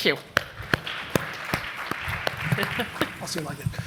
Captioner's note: applause